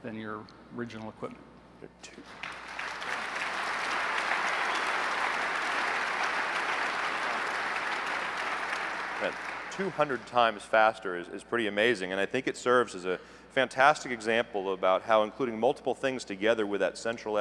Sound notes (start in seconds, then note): 2.2 applause